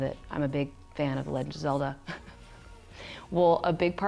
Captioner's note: risos